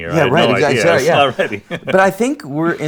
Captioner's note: laughs